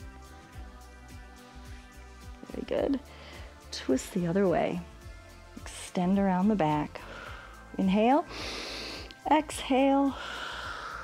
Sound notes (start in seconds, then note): 8.2 exhales; 8.3 inhales